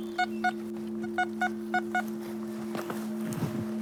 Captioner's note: detector continues beeping